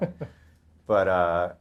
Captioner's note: laughs